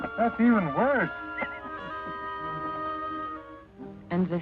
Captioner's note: all laughing